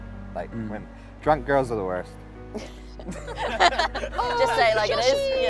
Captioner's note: laughter